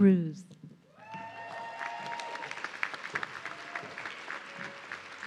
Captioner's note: audience cheering